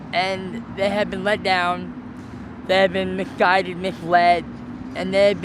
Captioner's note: none